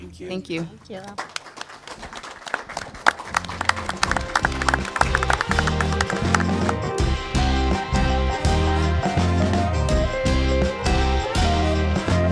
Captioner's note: applause